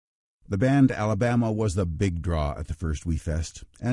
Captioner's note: voiceover